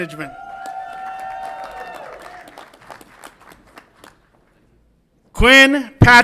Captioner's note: audience applauds and cheers